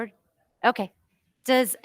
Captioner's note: speaking faintly